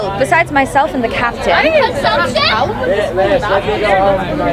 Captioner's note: people chattering